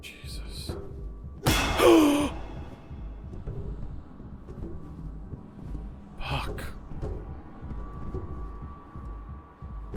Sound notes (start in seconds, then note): 1.4 object clangs; 1.7 Skull gasps